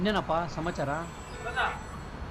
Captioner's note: distant calling